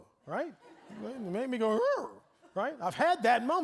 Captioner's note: audience laughing